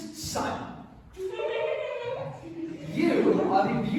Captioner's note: giggles